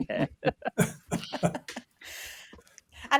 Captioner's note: laughter